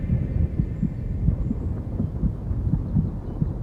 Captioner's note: thunder rumbling